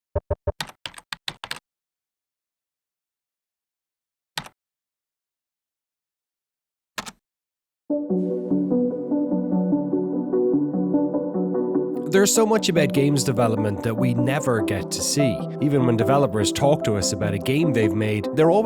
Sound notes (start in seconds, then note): 0.1 keyboard tapping; 8.5 gentle music